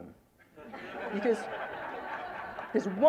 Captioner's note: laughter